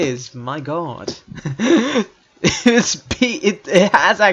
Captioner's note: random Noises